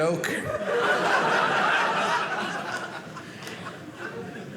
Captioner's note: audience laughing